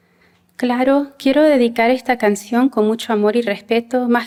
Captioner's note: non-english speech